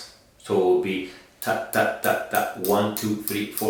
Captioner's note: tapping